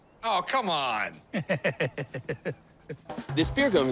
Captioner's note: chuckles